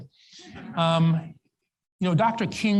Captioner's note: audience laughs